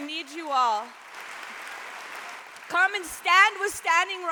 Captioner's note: applause rises